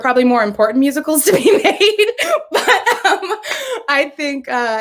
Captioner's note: laughs